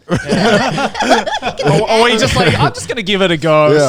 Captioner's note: everyone laughing